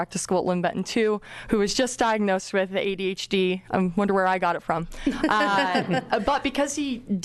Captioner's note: laughs